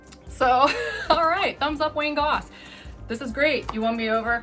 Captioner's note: chuckles